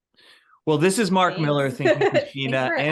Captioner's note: laughs